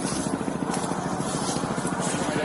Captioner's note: helicopter whirring